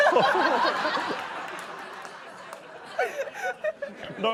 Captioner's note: laughter; applause